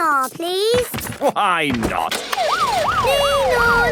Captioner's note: siren sounding